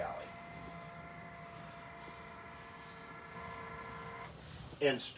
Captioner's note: electric motor running